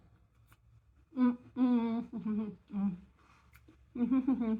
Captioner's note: happy mouth noises